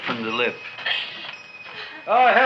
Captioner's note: shop bell chimes